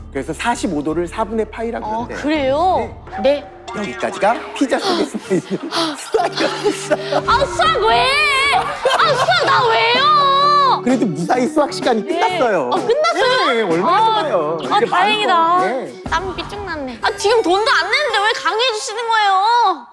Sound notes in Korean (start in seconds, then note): 4.7 날숨; 4.7 들숨